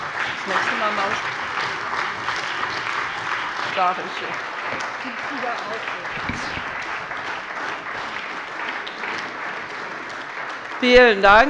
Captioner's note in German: Beifall bei der CDU und dem BÜNDNIS 90/DIE GRÜNEN